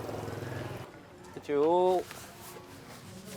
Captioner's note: speaking Vietnamese